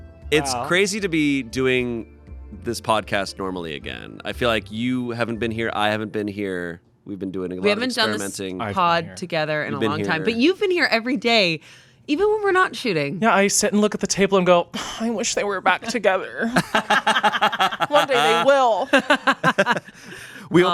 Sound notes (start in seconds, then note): 16.4 laughing